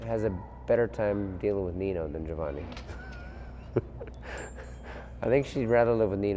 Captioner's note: laughs